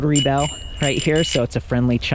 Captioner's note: bell ringing